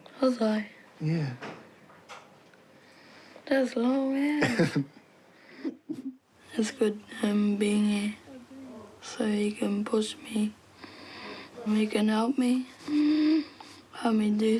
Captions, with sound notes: Was I? Yeah. That's long as. (LAUGHS)